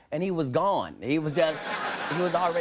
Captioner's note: audience laughing